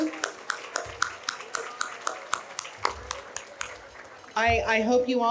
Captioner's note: audience applauding